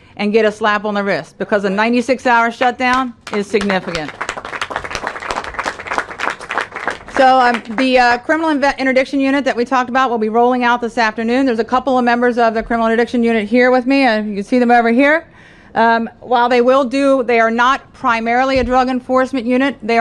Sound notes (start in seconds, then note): 5.7 applause